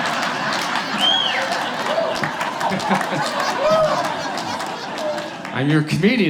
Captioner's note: audience laughs; whistles and cheers from audience